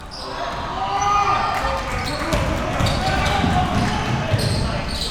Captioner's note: audience chattering and yelling